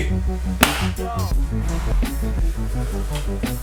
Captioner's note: claps hands